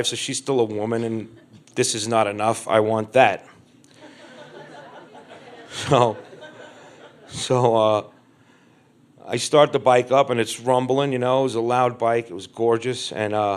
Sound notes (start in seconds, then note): 3.9 crowd laughs